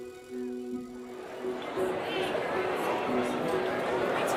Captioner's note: crowd noises